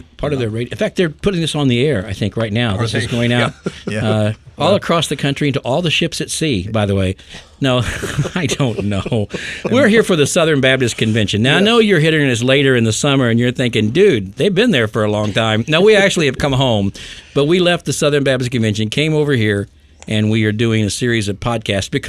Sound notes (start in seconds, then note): 7.7 men laughing